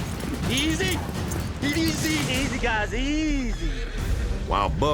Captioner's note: horse neighs